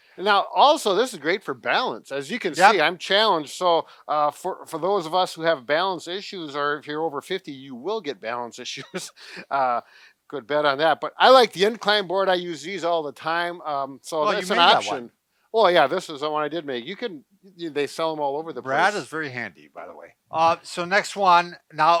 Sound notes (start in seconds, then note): 8.7 chuckles